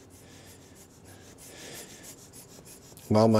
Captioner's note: rhythmic blowing